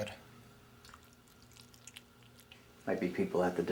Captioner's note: loud chewing